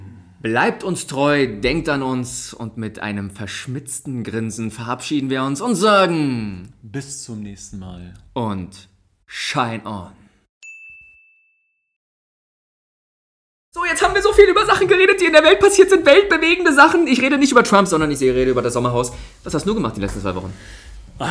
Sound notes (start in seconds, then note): 13.3 whiny voice